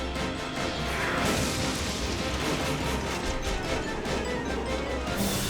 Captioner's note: dramatic music; engine exploding